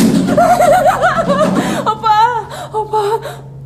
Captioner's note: crying; speaking in foreign language